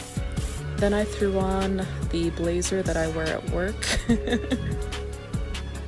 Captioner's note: laughs shyly